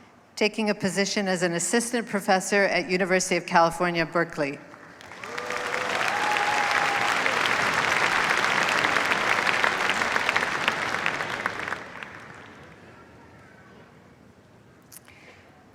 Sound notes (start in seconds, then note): 4.9 cheers, applause